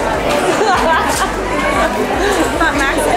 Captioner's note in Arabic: يضحك